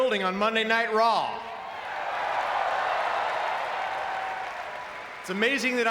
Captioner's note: audience cheering